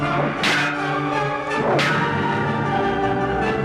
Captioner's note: swords clanging